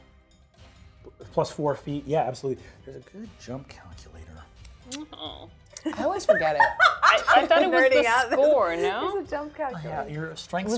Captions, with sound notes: Plus four feet, yeah, absolutely. There's a good jump calculator. (laughs) - I always forget it. - I thought it was the score.